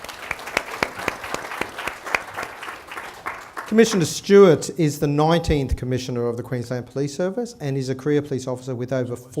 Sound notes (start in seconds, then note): 3.6 applause